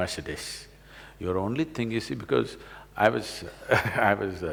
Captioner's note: laughs